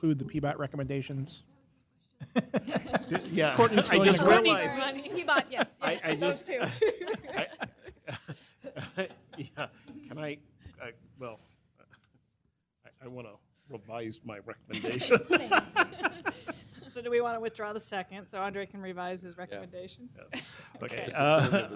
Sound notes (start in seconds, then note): 9.8 laughter; 17.0 laughter